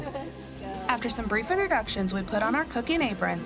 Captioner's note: laughter